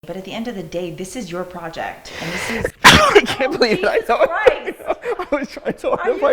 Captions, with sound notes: - But at the end of the day, this is your project and this is-- (sneezes) Oh, Jesus Christ! (laughs) - I was trying so hard